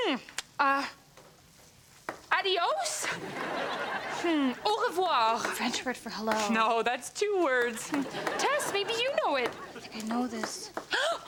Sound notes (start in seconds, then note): 3.0 audience laughs